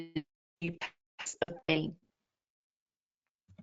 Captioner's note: audio cuts out